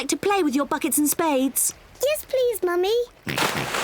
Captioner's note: oinks